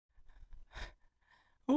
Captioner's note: breath